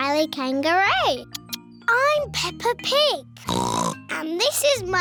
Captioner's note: oinks